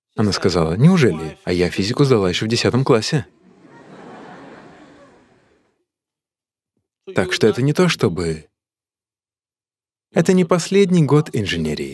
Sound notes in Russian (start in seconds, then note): 3.3 Смех